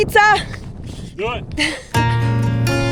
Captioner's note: laughs; lively music